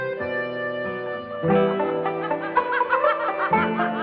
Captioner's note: laughter